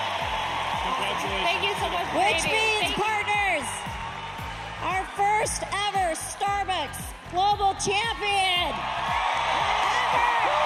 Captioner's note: cheers and applause